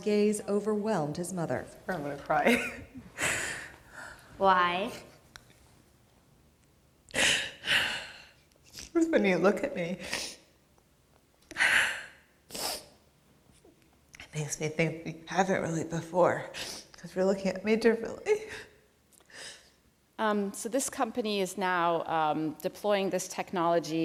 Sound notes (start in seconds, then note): 6.8 cries